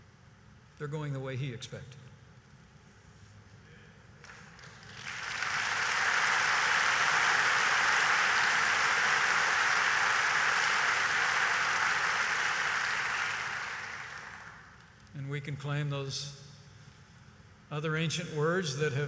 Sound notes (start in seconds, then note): 4.2 applause